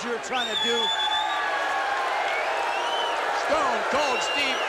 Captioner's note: crowd cheering